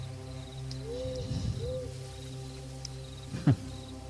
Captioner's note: owl hoots